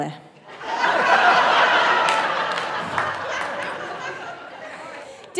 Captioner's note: audience laughing